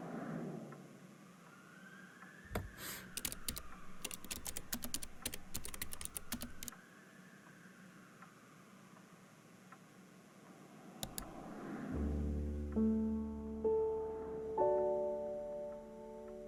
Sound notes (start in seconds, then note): 2.5 keys typing; 11.0 click